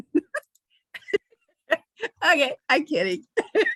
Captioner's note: chuckles